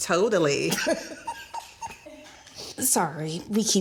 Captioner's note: laughing